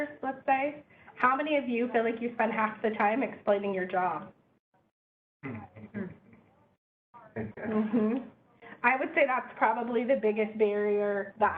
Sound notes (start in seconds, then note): 5.4 general agreement